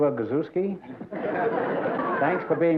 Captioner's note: laughter